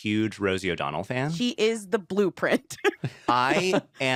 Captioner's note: chuckles